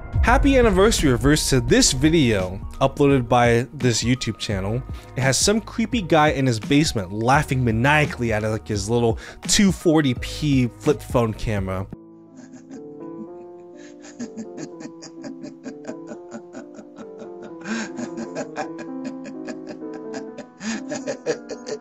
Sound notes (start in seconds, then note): 12.3 man laughing; 12.4 eerie music